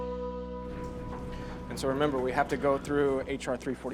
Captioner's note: door rattling